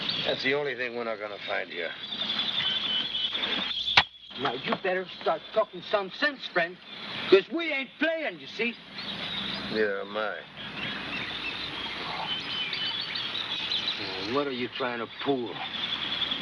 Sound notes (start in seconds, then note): 13.7 birds chirping